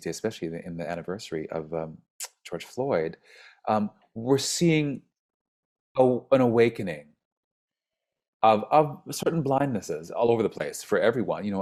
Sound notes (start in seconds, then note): none